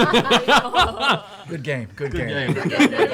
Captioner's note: laughter